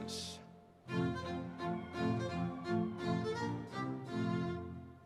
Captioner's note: audience cheering